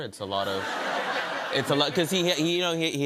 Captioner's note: laughter